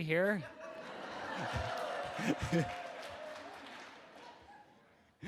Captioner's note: audience members cheer